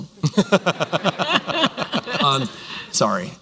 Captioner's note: laughter